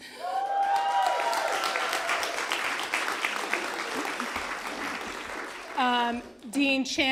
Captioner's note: applause